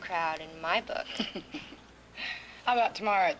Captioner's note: girls chuckling